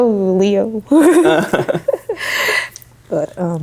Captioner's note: laughing